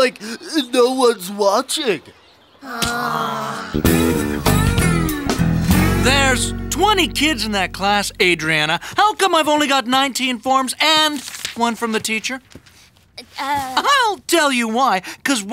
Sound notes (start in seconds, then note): 2.6 all sighing